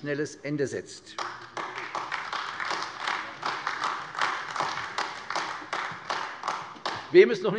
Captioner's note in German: Beifall AfD